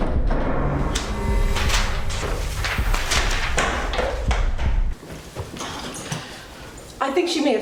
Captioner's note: air whooshing; papers rustling